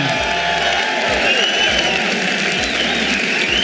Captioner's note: audience cheering